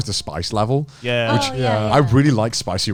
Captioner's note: group agreeing